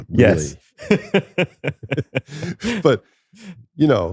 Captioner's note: laughter